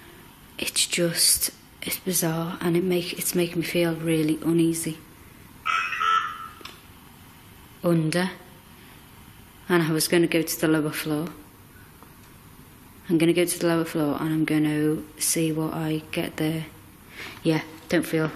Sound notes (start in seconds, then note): 5.6 OVILUS buzzing